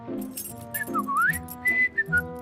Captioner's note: whistling